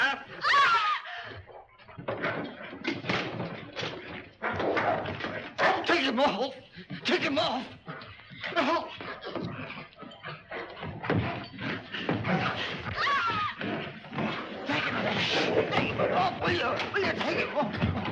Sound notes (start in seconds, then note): 0.4 Hilda screams; 1.2 objects clattering; 2.1 dog snarling; 7.7 dog snarling; 8.6 Raymond yelps; 10.4 dog snarling; 12.9 Hilda screams; 13.5 dog snarling; 13.8 Raymond pleading for help; 17.9 dog snarling & barking